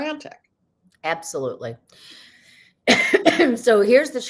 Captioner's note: coughs